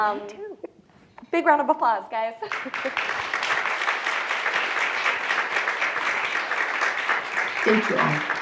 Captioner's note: audience applause